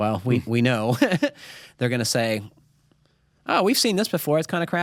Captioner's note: chuckles